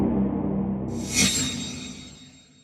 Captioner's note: eerie haunting music; metallic whooshing